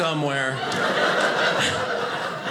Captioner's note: audience laughing